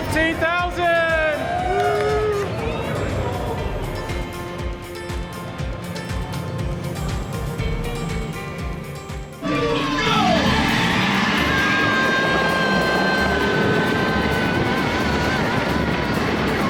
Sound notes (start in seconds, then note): 2.0 people cheering; 11.0 people screaming